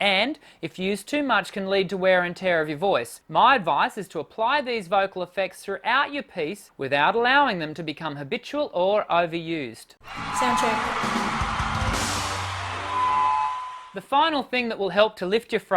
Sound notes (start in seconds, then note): 10.0 audience cheering